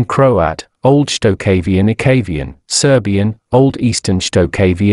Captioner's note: Serbian